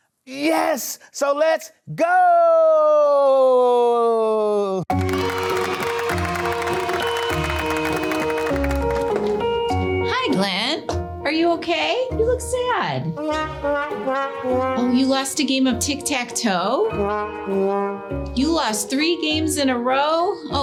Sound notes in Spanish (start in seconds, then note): 4.9 la multitud aplaude; 4.9 niños vitoreando; 13.2 música de trompeta triste; 16.8 música de trompeta triste